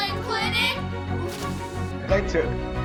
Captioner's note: both blowing